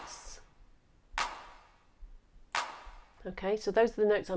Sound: hands clapping

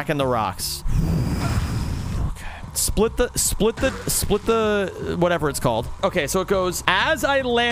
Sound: exhales

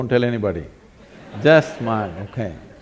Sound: laughter

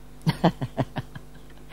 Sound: laughs

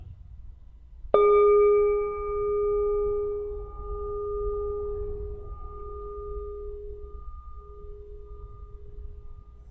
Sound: bell sound

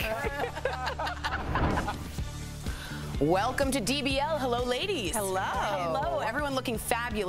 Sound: laughter

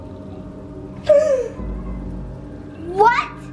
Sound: gasps awake

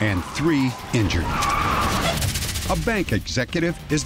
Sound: tires screeching

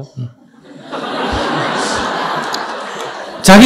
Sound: audience Laughter

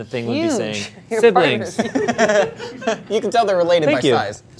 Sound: group laughing

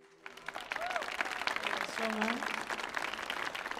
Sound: audience cheers

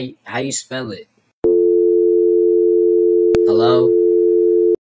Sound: dial tone

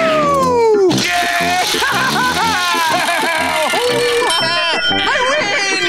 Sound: laughing

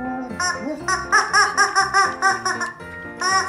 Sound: squawking

